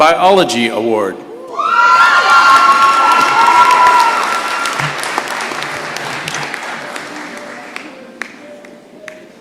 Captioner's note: shouting and applause